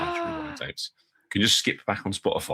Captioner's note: gasps